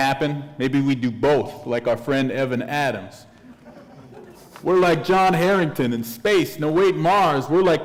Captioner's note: chuckle